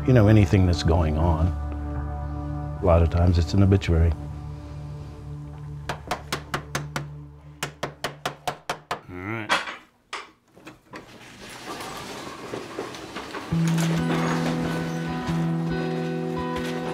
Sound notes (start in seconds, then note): 5.8 hammer taps; 13.5 languid music